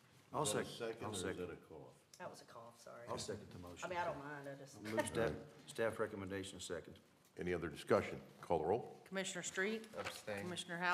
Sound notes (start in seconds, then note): 5.4 laughter